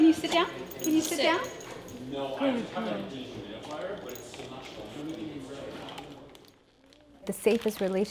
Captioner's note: background chatter